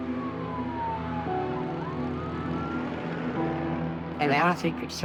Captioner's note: sirens blaring